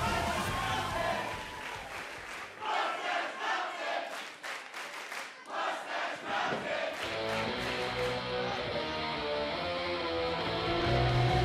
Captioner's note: fans chanting